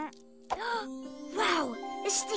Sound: gasps

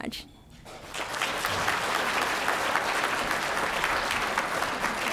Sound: applause

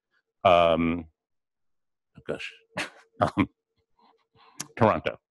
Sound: pause

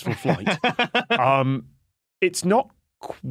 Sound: laughs

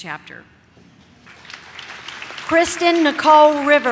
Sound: audience claps

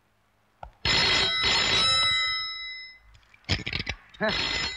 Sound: telephone Ringing

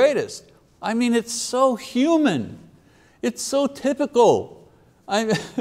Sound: chuckles

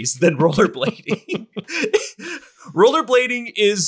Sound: all laugh

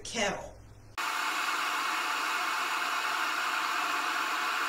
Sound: kettle whistling

